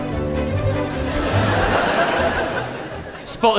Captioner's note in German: publikum lachen